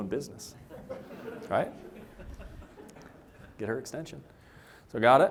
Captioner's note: laughter